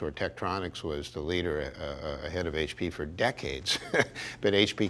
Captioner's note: laughs